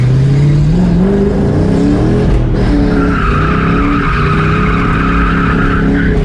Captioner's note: engine roaring and tires screeching